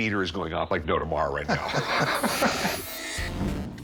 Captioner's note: chuckles